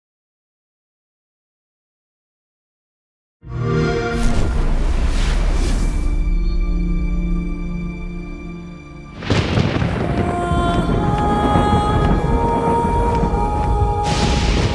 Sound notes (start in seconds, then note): 3.2 xbox sound; 10.1 slow version